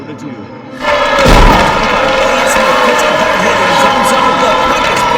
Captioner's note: booing